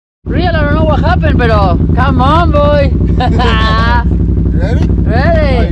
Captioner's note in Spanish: Risas